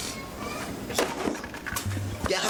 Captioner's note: crash